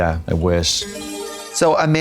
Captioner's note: bright chime